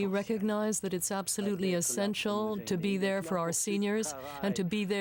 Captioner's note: speaking french